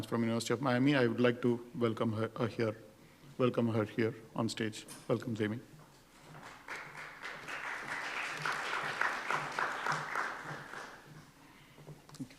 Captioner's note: applause